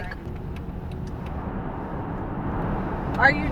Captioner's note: car engine continues humming